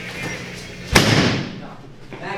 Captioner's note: door slamming